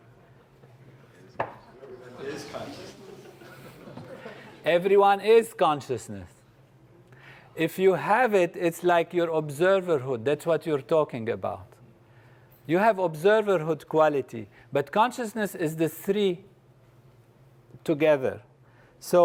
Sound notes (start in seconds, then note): 2.0 laugh